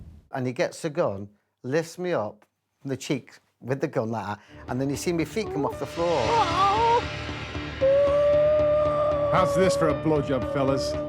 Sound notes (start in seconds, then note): 8.3 high pitched groaning